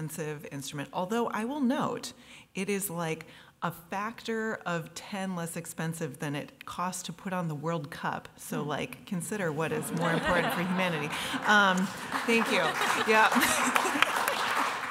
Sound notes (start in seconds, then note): 10.0 applause; 13.4 chuckles